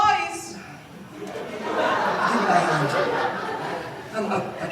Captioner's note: laughter